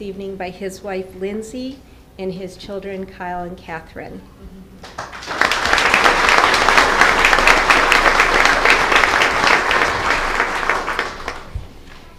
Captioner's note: applause